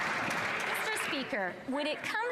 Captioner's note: some Applause